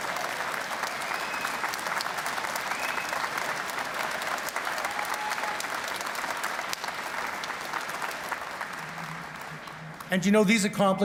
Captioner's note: cheers and Applause